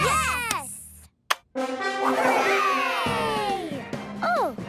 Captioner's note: epic music; kids cheering